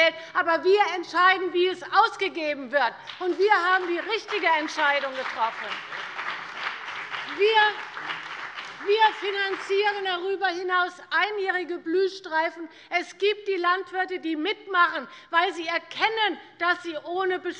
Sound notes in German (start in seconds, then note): 5.4 Beifall bei der CDU und dem BÜNDNIS 90/DIE GRÜNEN